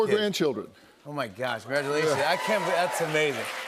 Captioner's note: cheers and applause